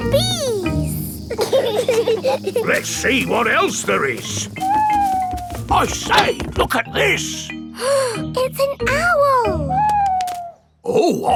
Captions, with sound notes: Buzzy bees! (BEES BUZZING) Let's see what else there is. (OWL HOOTING) I say, look at this! (GASPS) It's an owl!